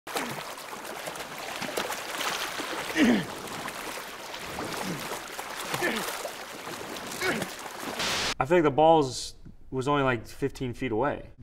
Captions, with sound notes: [water splashing] [grunting] - I think the ball was only like 15 feet away.